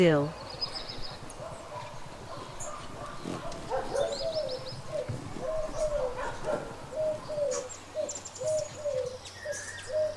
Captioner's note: birds chirping; birds singing; dogs barking